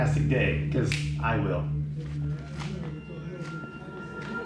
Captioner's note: snaps fingers